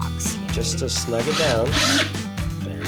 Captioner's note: drilling sound